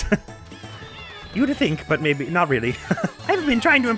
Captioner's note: as Penguin; as Mario; chuckles